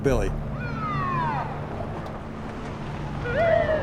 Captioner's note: siren